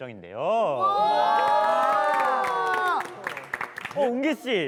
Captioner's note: A round of applause